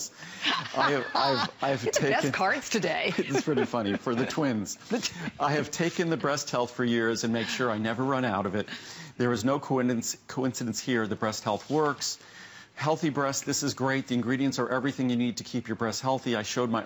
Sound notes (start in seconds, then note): 3.0 laughter